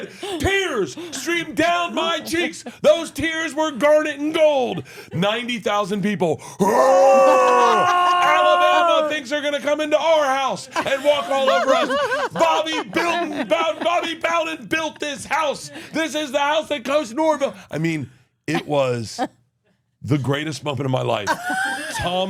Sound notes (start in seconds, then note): 6.6 roars